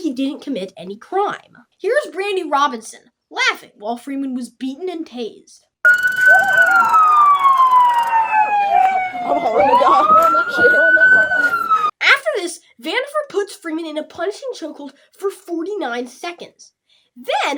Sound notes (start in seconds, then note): 12.0 laughing